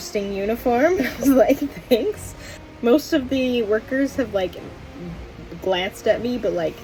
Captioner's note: laughs